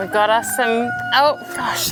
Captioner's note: cockerels